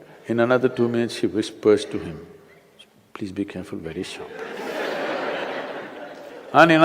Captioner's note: laughter